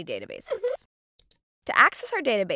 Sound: squirrel chuckles

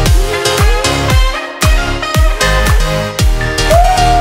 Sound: timer beeping

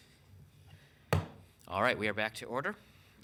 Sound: gavel slams

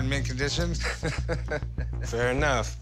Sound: laughs

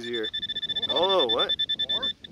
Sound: pointer pings

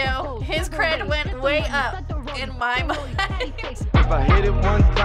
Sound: laughs

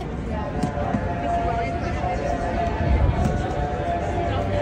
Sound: ships horn blasts

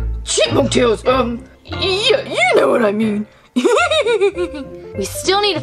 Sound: snickers

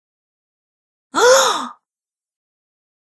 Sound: sound of female gasp

